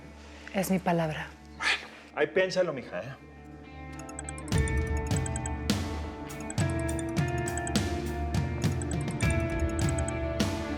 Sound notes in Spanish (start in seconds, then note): 6.3 suena el celular